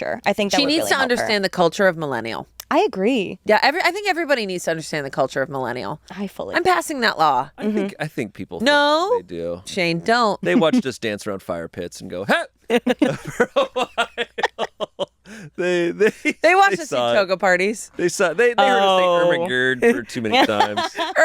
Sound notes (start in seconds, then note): 12.9 all laugh